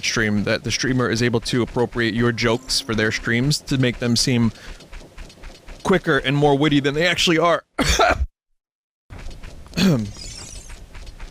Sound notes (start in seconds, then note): 9.7 ahem